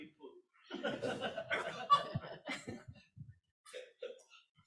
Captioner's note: group laughs